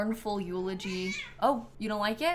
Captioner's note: snap meows